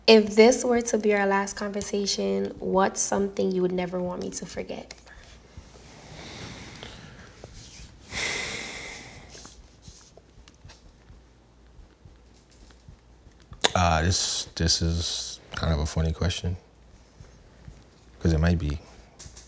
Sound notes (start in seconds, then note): 8.3 sighs